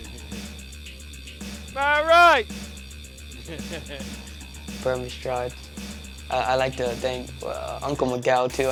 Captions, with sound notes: Have a ride! (laughs) Bermy Stride. I like to thank Uncle Miguel too,